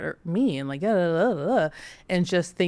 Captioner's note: stutters